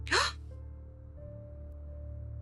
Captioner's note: gasps